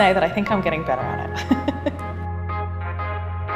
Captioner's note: laughs